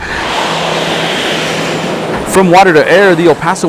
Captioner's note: airplane swooshing